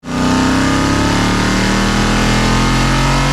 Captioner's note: engine revving